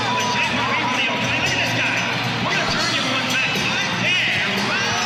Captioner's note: loudspeaker announces over buzzer